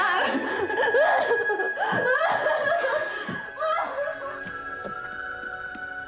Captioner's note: Amanda wailing; gentle music